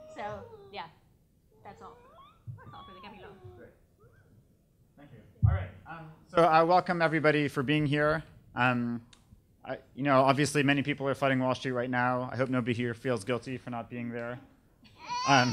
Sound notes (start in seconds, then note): 1.6 baby squealing